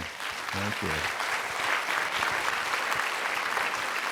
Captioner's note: applause